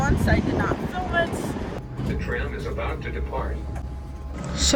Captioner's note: automated announcement